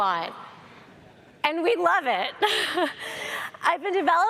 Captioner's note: laughs